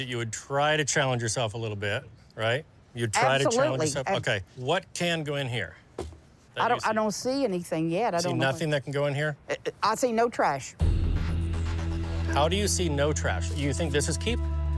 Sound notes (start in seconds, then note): 9.2 stutters